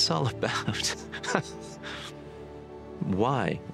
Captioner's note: laughs